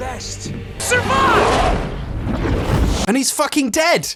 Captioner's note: snarling